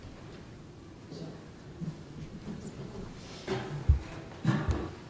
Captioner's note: group murmuring